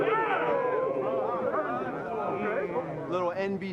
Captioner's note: players shout